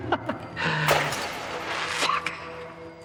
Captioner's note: Roger chuckling; glass shattering